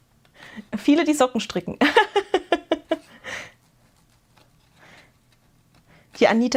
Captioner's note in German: gelächter